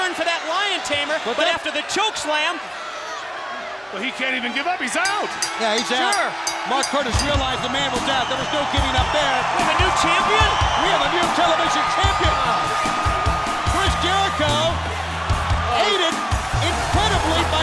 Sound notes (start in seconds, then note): 8.2 bell ringing